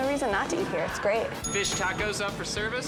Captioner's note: bell rings